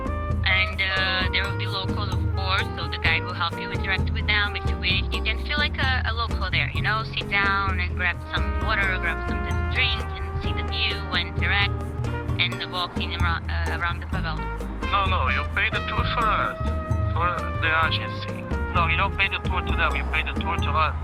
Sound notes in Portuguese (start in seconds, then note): 14.5 homem em inglês